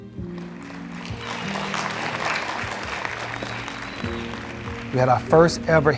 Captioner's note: audience clapping